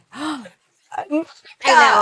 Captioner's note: gasps